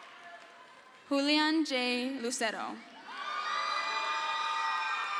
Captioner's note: crowd cheers; crowd cheers